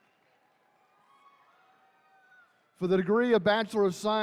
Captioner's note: attendees cheering